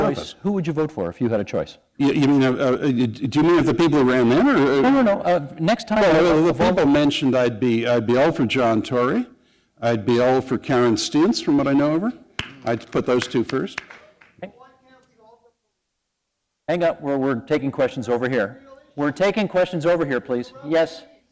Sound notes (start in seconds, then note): 14.2 background voice